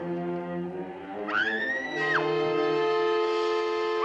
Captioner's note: screams; suspenseful music